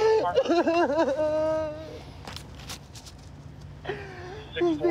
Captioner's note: crying